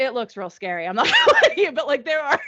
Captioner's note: laughing